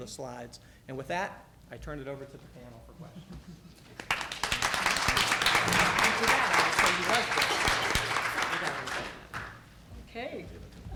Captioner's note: applause